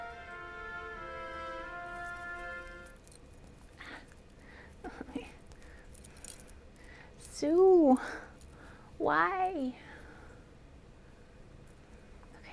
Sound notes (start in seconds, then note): 5.8 T-Rex jingling